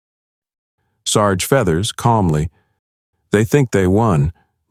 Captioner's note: calmly